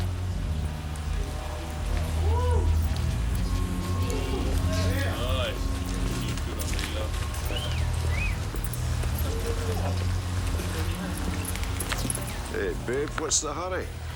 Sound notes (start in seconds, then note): 4.2 men catcalling; 6.8 whistling